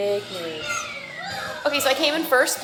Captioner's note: children yelling